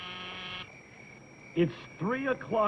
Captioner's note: door buzzer